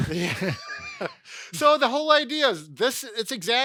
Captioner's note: both laughing